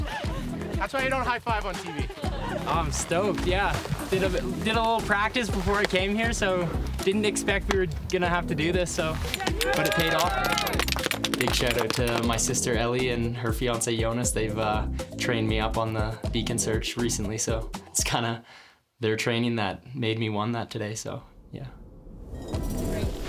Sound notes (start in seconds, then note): 8.4 crowd clapping